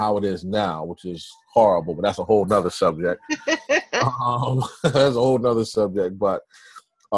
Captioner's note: laugh